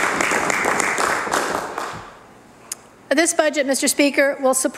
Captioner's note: applause